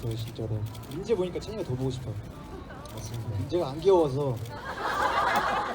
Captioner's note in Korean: 웃음